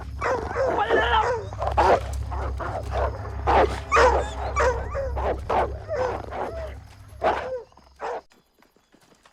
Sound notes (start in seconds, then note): 0.0 barking, Snarling; 0.0 yelling; 2.9 barking, Snapping